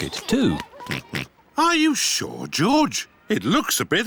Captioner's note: oinks